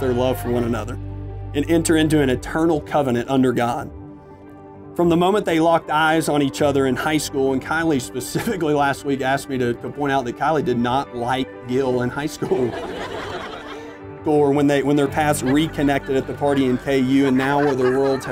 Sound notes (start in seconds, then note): 12.4 laughter